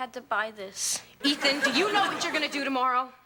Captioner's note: audience laughing